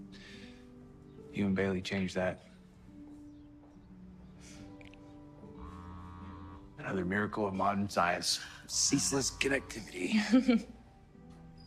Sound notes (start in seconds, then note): 5.6 phone vibrating